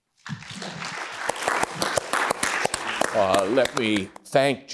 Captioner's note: audience applauds